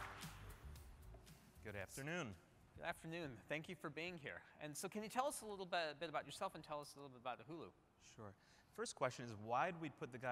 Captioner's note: applause